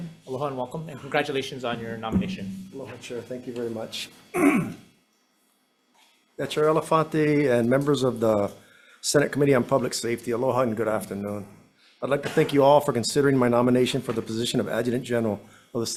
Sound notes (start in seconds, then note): 4.3 throat clears